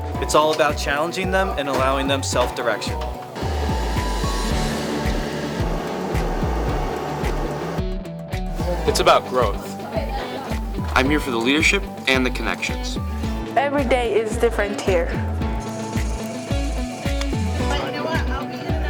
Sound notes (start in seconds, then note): 3.2 machinery whirring; 16.0 upbeat music